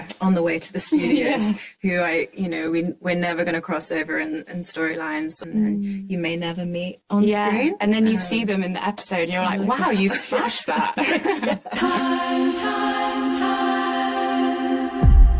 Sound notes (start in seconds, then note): 9.7 everyone laughs